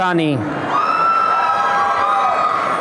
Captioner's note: applause and cheering